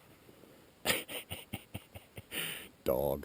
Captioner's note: laughing